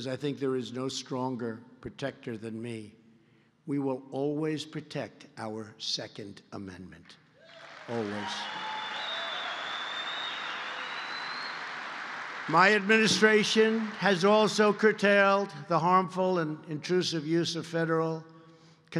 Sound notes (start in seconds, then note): 7.4 applause